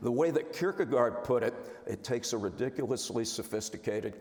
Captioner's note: none